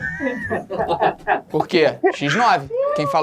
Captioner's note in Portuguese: risadas